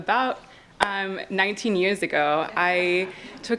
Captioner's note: audience laughs